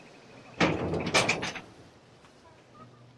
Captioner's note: door noise